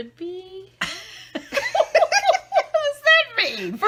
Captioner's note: laughing